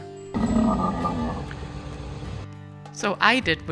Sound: camel grunting

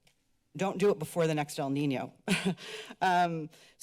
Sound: chuckles

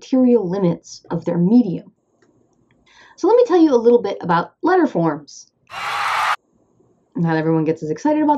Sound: applause

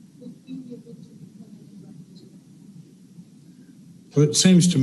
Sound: no audio

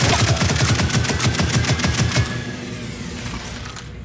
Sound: gunfire

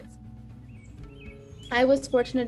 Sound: birds chirping

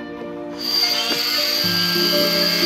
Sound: saw buzzing

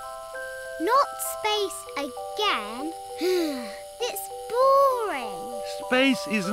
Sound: sighs

